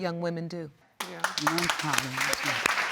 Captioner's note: mumbling; audience applauding